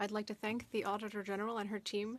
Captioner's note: speaking French